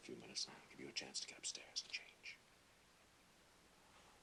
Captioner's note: whispers